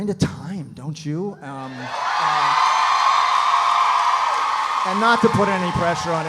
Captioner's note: audience cheering; audience applauding